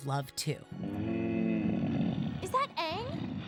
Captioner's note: grunting